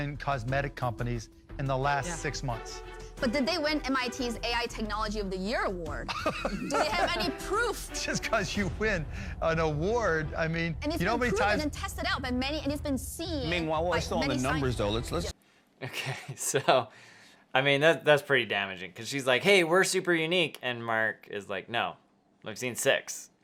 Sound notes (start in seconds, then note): 6.0 Sharks laughing; 15.8 chuckles